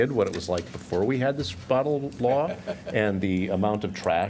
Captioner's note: laughter